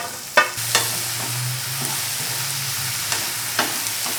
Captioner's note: food broiling